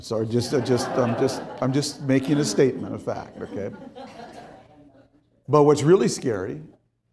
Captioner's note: crowd laughing